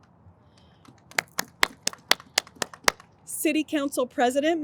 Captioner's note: audience applauds